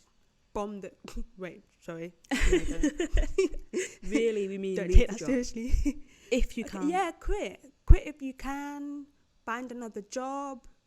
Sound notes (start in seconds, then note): 2.3 laughter; 2.3 snickers